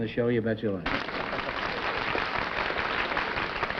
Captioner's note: applause